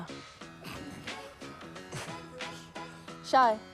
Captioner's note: wes snorts